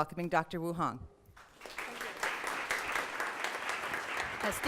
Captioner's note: applause